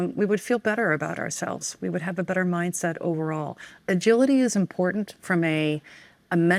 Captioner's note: none